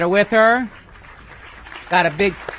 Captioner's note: applause